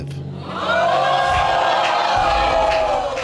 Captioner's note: audience exclaims